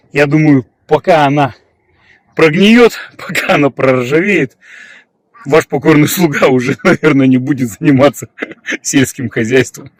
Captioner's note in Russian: смех